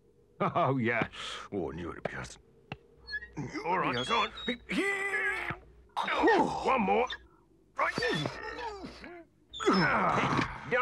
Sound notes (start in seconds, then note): 3.1 weasels grunt; 7.5 trap squeaks; 7.5 weasels grunt